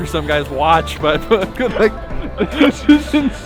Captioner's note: laughing